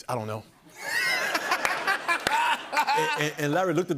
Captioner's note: laughter